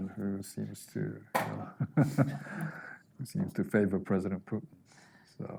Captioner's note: chuckling